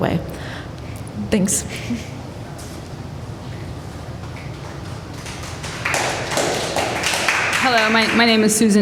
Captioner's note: applause